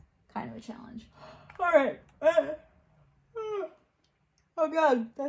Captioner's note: yawns